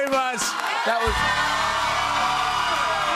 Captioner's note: cheers and applause